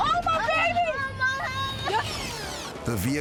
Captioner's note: child crying